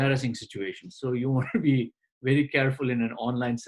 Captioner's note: laughs